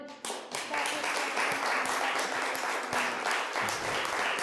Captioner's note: applause